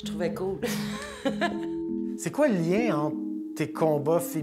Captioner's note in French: rire